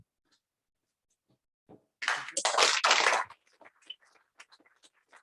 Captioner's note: applause